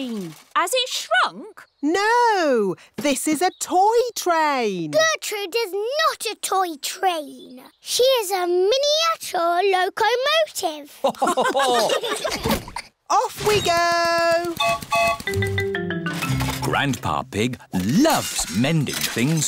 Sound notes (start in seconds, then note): 11.0 laughter; 14.6 whistle blows